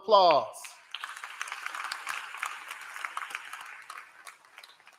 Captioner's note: applause